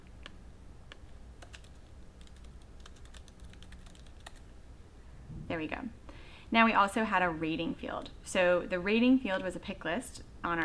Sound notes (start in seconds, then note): 2.2 typing on keyboard